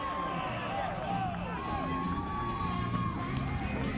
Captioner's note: crowd cheers; muffled pop music